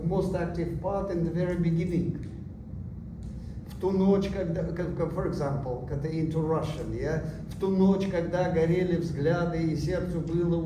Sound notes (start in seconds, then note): 3.9 non-english